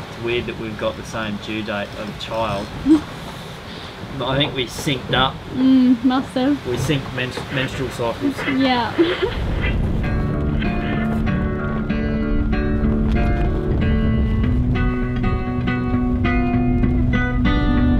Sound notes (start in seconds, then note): 8.3 laughs; 9.9 lighthearted guitar music